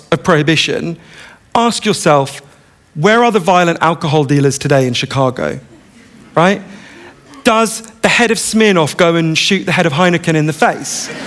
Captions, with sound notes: of prohibition, ask yourself, where are the violent alcohol dealers today in Chicago [laughter], right? Does the head of Smirnoff go and shoot the head of Heineken in the face?